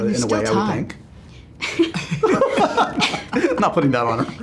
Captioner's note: laughter